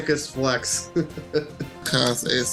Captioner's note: laughs